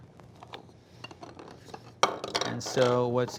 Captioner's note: plastic pieces clanking around